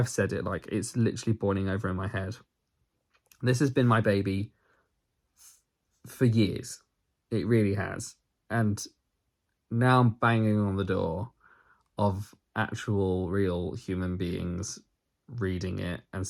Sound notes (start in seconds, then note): none